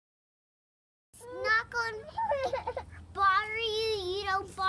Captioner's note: baby crying